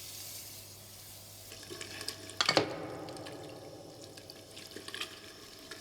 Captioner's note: water running